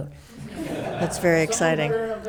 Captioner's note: attendees laughs